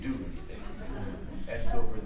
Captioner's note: audience laughs